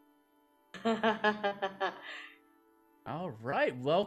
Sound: laughing

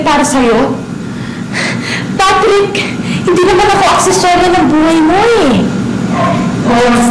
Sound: scoffs

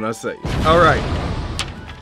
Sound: explosion

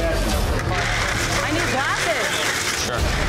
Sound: ice clattering

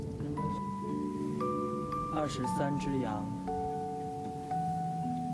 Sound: with the voice of counting sheep

